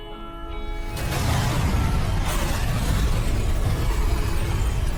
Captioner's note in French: une explosion gronde